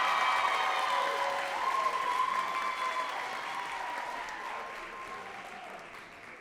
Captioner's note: audience cheering and clapping